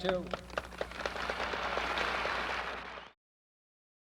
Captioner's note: applause